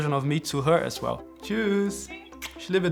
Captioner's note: in German